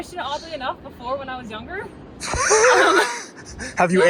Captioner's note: laughs